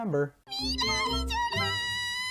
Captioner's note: omega weeb noises